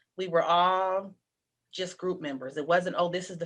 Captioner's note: none